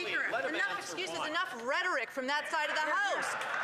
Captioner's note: some Applause